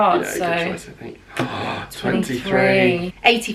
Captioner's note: gasping